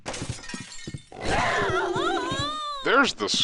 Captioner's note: glass breaking; animal growl; woman screaming